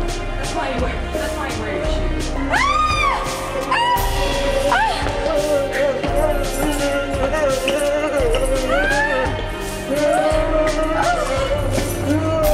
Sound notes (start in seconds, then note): 2.5 screaming